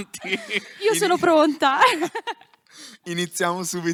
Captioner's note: laughing